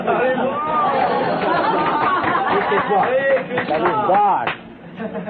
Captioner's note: Risas